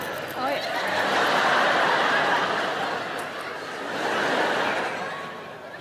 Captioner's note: audience laughing